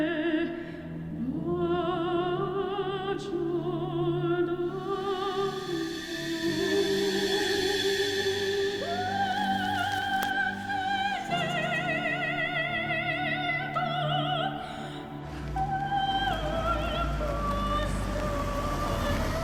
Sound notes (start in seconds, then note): 5.6 light dramatic music; 8.9 rustling; 15.2 engine rumbling